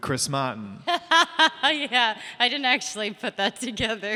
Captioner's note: laughter